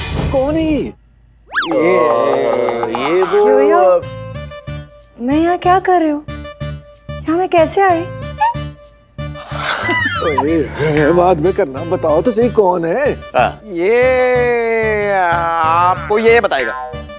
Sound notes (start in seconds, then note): 1.5 Stammering; 9.5 Chuckles